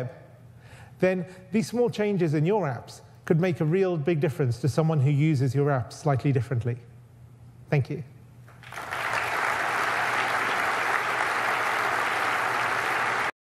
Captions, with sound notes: then these small changes in your apps could make a really big difference to someone who uses your apps slightly differently. Thank you. [Audience applauds]